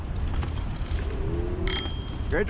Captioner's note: ding